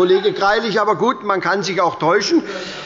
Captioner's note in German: Heiterkeit bei der SPD und dem BÜNDNIS 90/DIE GRÜNEN